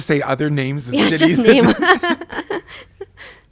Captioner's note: both laugh